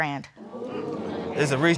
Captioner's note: crowd gasping